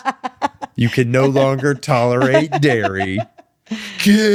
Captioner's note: laughing